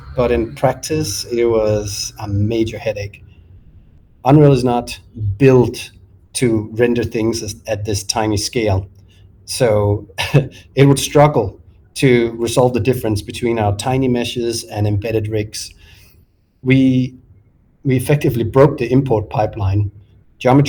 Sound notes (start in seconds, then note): 9.7 chuckles